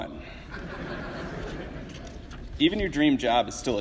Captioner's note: audience laughs